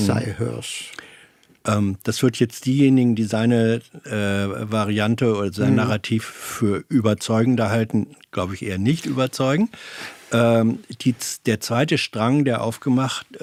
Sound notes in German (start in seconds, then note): 5.7 räuspern